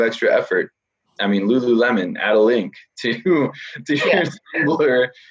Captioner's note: laughs